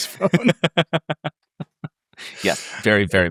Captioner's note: chuckle